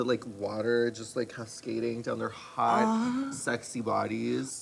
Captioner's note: moans